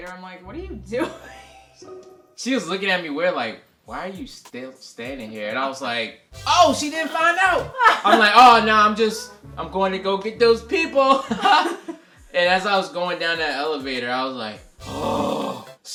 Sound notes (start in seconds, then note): 11.2 laughs